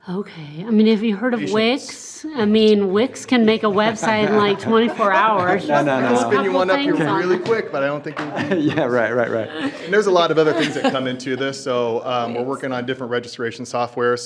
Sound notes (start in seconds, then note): 5.6 laughter